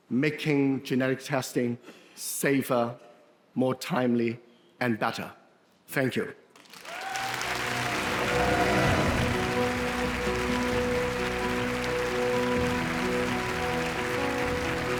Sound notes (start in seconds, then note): 6.5 audience applauding; 7.2 wondrous music